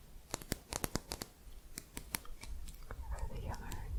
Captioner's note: quick tapping